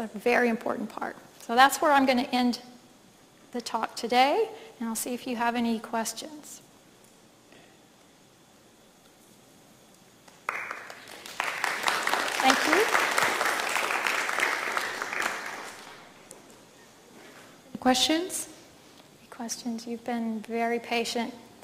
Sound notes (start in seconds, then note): 11.9 audience applauding